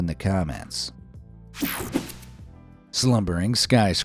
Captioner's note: graphics whooshing